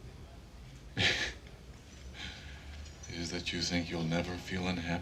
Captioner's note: chuckles